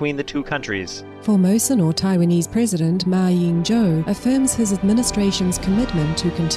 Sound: Taiwanese

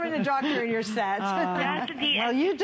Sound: laughter

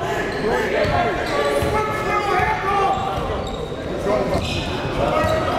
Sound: coaches and crowds yelling

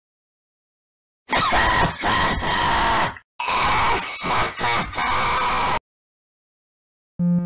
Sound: crying

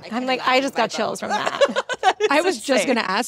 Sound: Ashley laughs

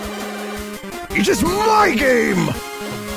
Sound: AoSTH Robotnik voice

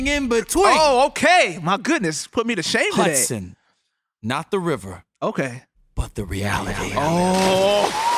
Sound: echo, splash

